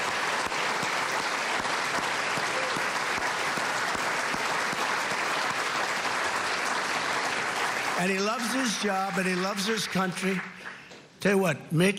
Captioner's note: applause